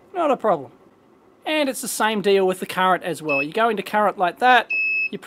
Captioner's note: beeps